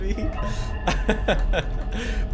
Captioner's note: laughing; laughs